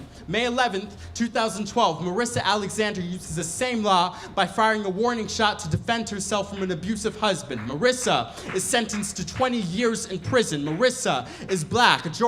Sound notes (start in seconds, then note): 7.4 audience members applaud